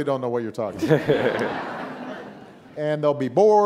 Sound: audience laughing

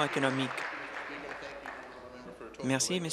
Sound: applause

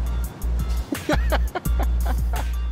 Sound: Reggie laughing

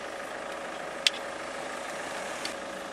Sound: sound of vehicle approaching

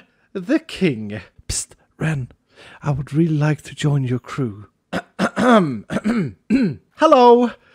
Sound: clear throat

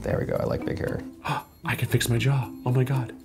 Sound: gasping

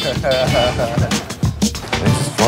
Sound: laughs

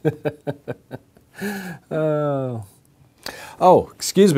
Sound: laughs

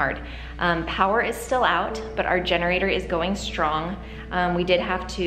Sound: none

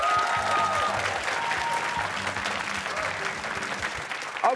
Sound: cheers and applause

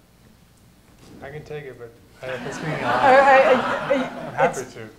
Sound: laughter

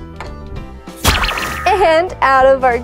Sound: popping

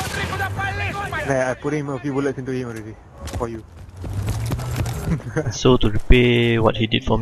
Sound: laugh

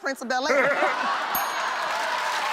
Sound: laughter and applause

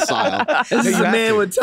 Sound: group laughing

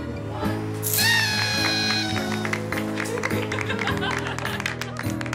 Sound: party horn, laughter, applause

